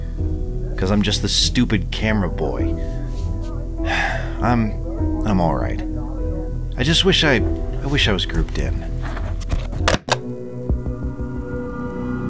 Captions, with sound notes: cause I’m just the stupid cameraboy. [sighs] I’m– I’m alright. I just wish I– I wish I was grouped in. [ominous music]